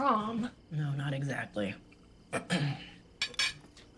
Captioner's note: clears throat